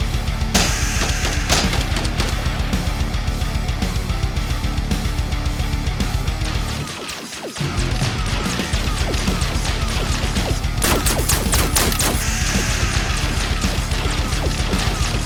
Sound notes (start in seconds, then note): 0.5 gun blasting; 0.6 scorpion hisses; 6.4 gun blasting; 12.2 scorpion hisses